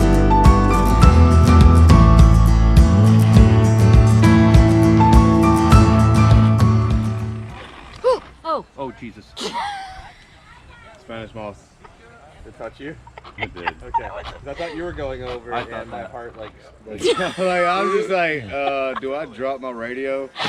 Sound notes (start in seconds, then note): 9.6 gasp!; 10.1 laughing